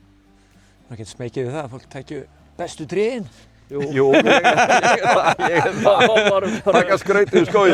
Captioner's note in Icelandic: laughs